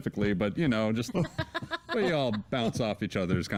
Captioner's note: audience laughing